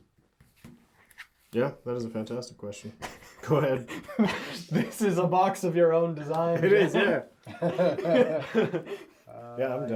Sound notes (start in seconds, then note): 6.4 all laugh